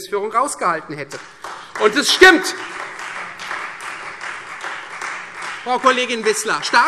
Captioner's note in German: Beifall Freie Demokraten